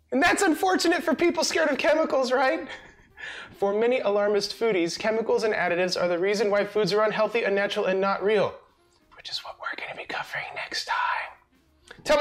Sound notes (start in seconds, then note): 2.6 laughs